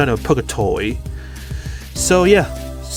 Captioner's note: breathing in